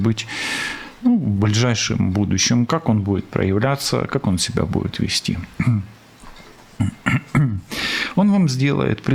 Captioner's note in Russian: откашливается